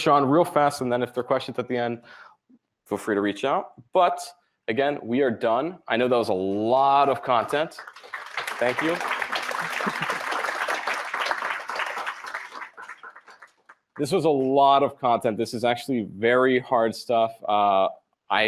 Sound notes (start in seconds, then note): 10.2 applause